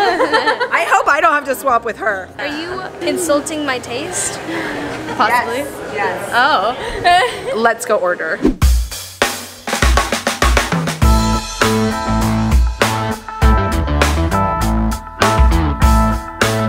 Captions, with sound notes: I hope I don't have to swap with her. - Are you insulting my taste? - Possibly. - Yes, yes. (laughs) Let's go order. (rhythmic rock music)